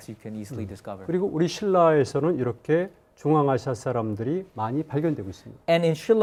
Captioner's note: speaking in Korean